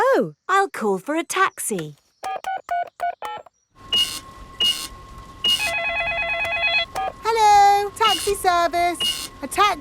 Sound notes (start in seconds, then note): 2.2 dialing; 3.8 cash register beeping; 5.2 beeps; 5.4 cellphone ringing